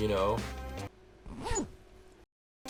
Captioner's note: zipper sound